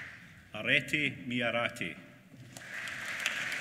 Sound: applause

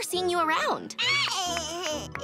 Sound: laughing

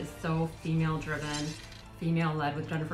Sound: arrow scraping

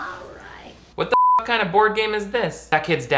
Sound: beep

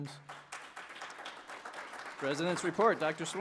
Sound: applause

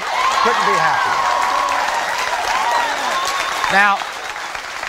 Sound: applauding; cheering

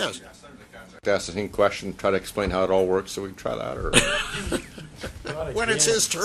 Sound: mixed discussion; laughter

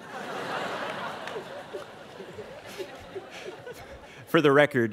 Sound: students laughing

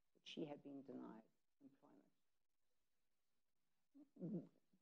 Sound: none

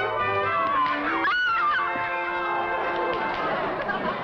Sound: screams

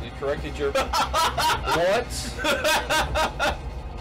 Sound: laughs

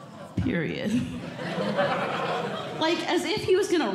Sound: audience Laughing

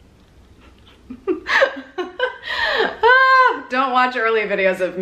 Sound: laughing

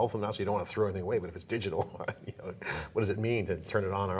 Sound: chuckling

